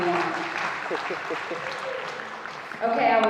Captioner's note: audience applauding